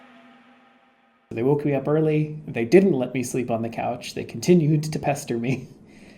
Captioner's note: chuckles exhaustedly